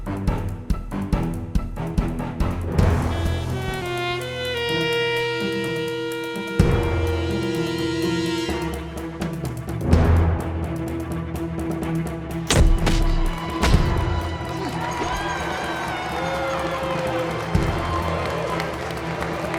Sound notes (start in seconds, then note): 15.9 crowd cheering